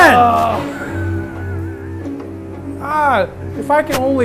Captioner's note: laughs